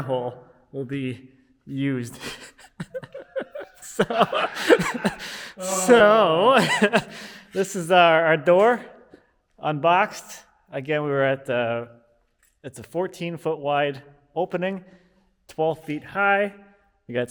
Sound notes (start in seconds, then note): 2.1 laughing